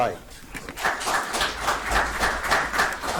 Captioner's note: audience applauds